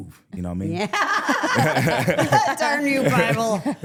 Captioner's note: all laughing